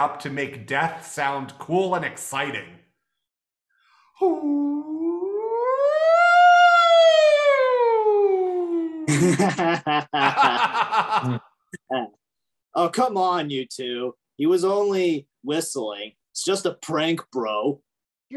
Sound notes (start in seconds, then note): 9.1 laughing